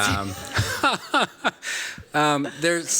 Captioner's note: laughs